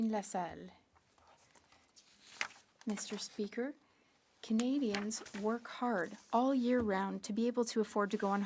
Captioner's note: speaking French